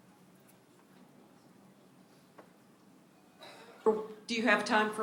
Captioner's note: silence